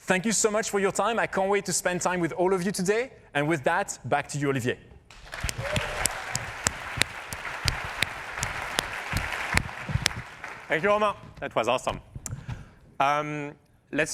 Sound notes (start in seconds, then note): 5.2 cheers and applause